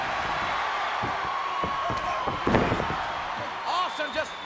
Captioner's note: audience cheers